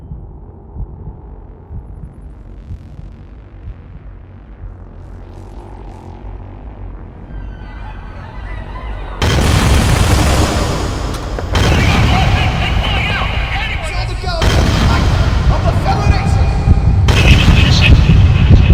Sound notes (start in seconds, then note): 7.0 paniced crowd shouts and screams; 9.2 gunfire